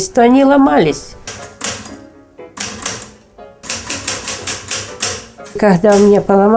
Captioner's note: typewriting